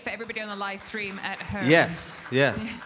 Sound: audience applauding

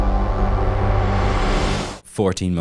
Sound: low whooshing

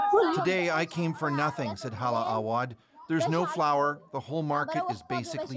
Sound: speaking alternate language

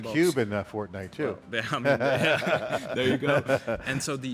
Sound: both laughing

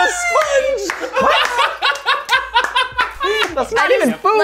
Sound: laughter

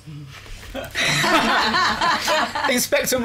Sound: laughter

